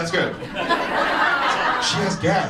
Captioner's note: audience laughs